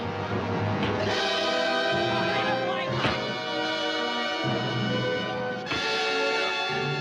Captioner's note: dramatic music continues; fist thuds